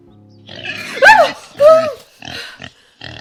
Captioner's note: pig Noise